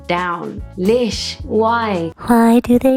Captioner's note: foreign language